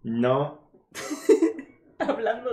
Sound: laughter

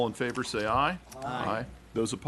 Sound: chorus of ayes

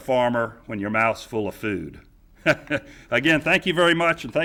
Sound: chuckling

